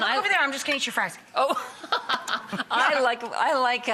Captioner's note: laughing